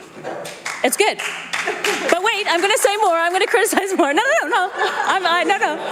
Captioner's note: applause